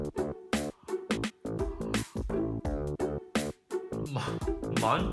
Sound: inhaling

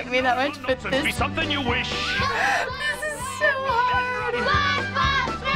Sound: giggling

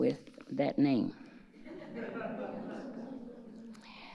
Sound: audience laughing

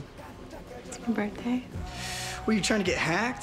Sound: inhales sharply

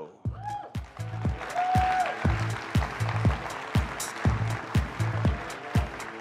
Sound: upbeat music; audience clapping

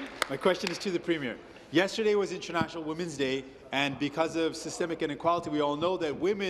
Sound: applause

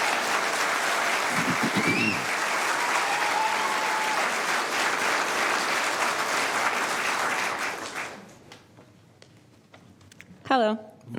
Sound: applause

